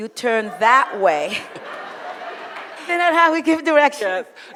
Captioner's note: audience laughs